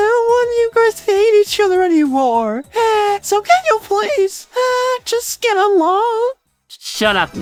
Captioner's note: cries